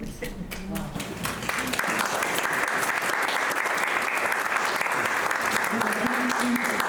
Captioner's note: audience applauding